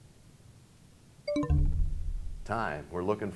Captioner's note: bell chimes, time expires